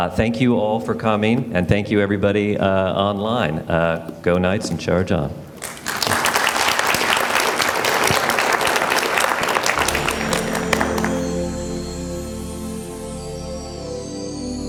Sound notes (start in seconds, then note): 5.6 audience applause